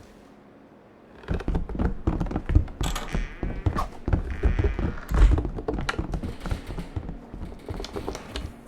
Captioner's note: footsteps descending tower; footsteps crossing grass